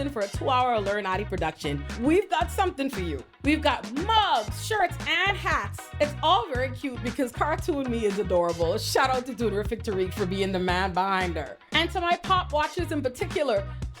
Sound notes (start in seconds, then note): none